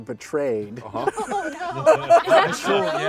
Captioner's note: laughs